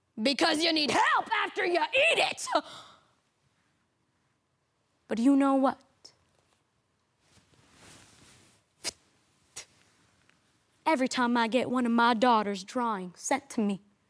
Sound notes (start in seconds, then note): 7.1 fabric rustling